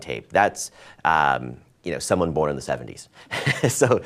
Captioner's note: laughs